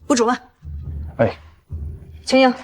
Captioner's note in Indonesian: Menghela napas